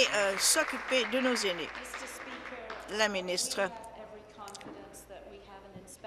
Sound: applause

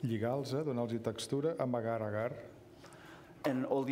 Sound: speaking catalan

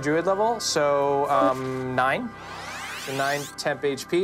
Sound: whizzing

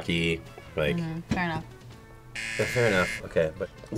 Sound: buzzer

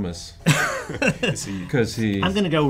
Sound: laugh

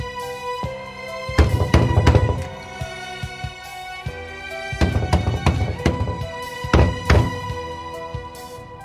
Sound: door knocking

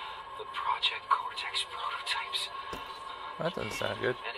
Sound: footsteps

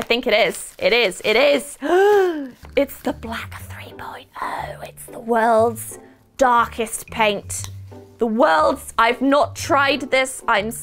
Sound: gasp

